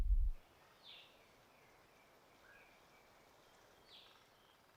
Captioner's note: forest sounds